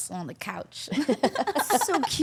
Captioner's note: all laughing